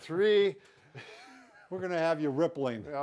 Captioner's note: laughs